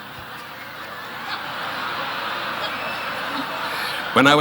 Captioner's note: audience laughing